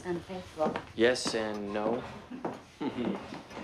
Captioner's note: chuckles